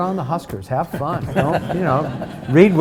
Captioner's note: audience laughs